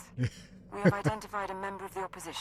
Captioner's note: laughs